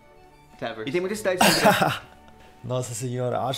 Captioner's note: laughs